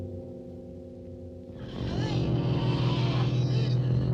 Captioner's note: groaning